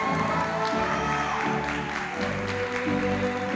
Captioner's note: applause